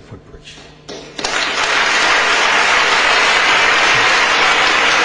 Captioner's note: audience applauding